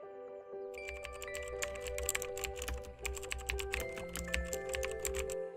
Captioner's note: keyboard keys clicking